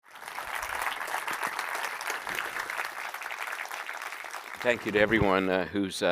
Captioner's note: applause